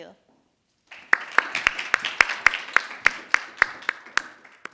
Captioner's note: audience applauding